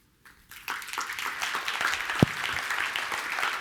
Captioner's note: applause